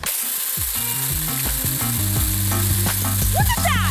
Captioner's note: chainsaw whirring